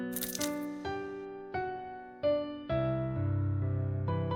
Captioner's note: crack